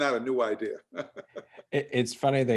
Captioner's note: laughing